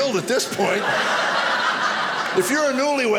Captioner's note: audience laughing